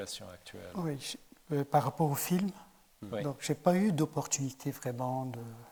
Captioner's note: speaking in French